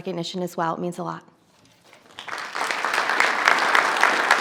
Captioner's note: audience applauds